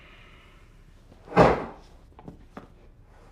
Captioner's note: head thudding